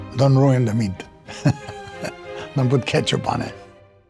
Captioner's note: laughing